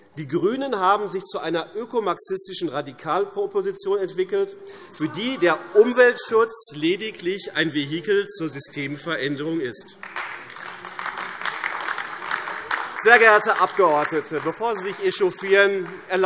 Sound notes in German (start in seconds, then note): 9.9 Beifall AfD - Unruhe